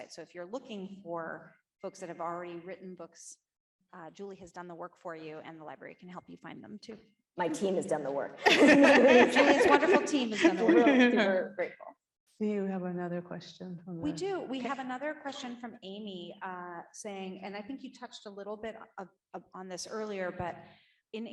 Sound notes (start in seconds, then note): 8.4 laughing